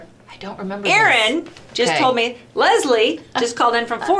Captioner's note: laughs